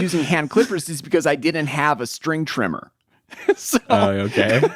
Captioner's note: laughs